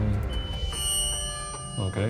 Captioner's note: device beeps